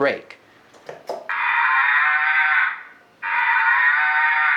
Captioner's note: cow mooing